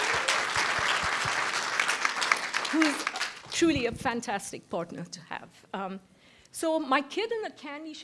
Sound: applause

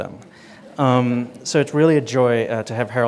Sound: audience laughing

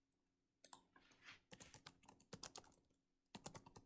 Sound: typing

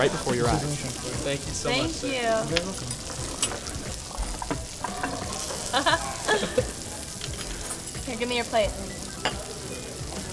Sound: laughter

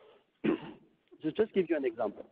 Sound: clears throat

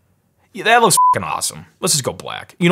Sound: beep

